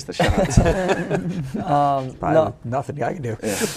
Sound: laughing; laughing

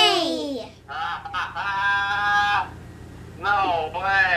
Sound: laughs

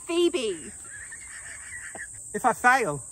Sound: laughing

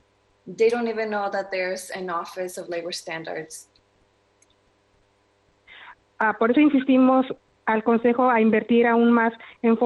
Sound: speaking spanish

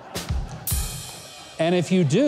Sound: drum beats; laughs

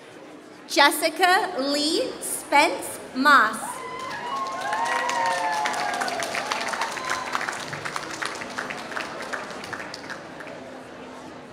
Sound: applause

